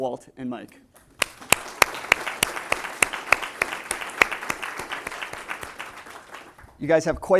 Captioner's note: audience applause